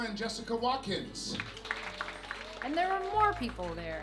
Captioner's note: clapping